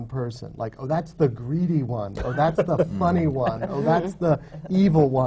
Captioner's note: laughter